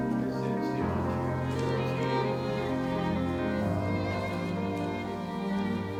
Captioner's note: gentle music continues; people chattering softly